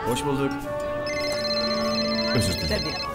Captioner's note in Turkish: telefon sesi